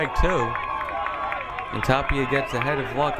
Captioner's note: crowd cheering